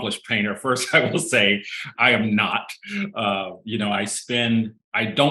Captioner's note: chuckling